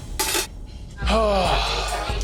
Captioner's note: sighs